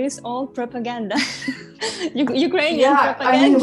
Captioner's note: chuckles